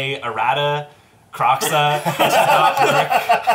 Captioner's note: all laugh